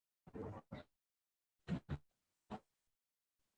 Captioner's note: static